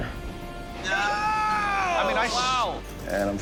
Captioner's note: all groaning, chattering